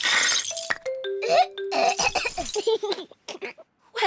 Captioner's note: splutters; giggles